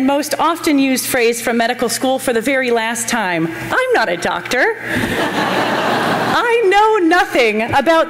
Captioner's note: laughter